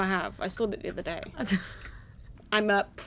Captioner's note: laughs